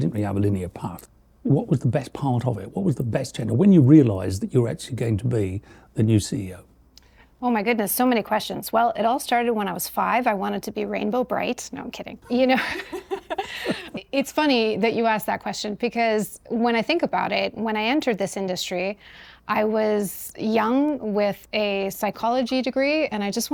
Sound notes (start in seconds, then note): 12.2 laughing